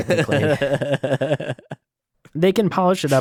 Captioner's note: laughing